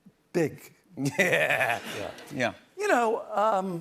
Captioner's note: laughs